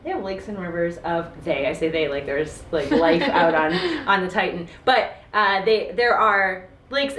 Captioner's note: laughs